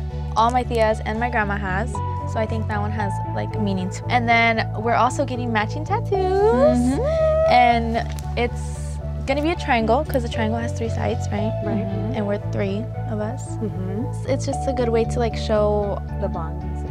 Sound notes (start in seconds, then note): 6.4 women humming in agreement